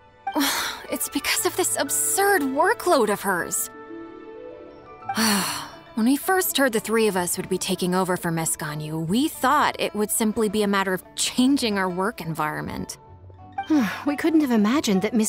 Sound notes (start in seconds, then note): 5.1 sigh